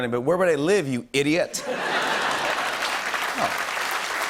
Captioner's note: laughter and applause